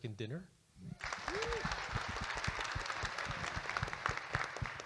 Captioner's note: audience Applauding